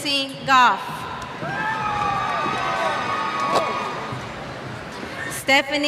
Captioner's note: cheers